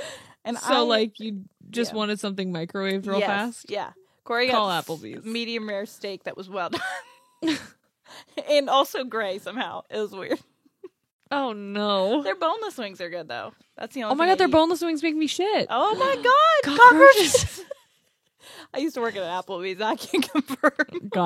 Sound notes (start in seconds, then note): 7.4 laughs